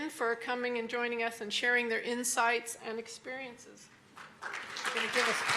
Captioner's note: applause